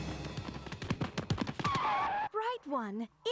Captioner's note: both skidding